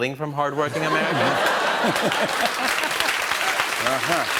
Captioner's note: laughter and applause